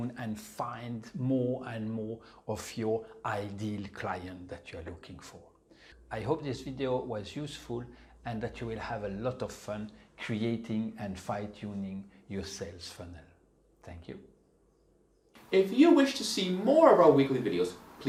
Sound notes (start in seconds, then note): none